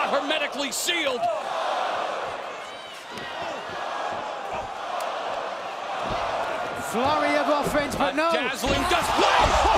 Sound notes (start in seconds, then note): 1.2 crowd chatter